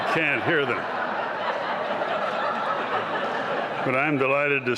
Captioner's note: laughter